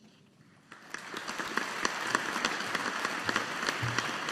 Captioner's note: audience applauding